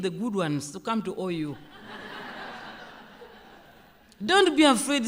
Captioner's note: laughter